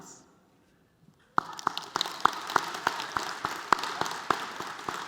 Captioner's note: applause